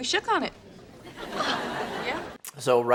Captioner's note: laugh track laughs